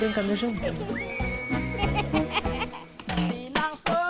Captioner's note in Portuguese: risos